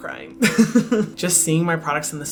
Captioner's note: laughs